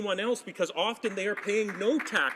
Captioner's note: applause